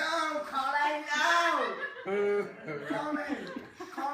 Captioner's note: laughter